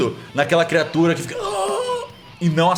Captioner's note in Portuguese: grunhido